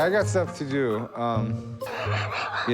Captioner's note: laughs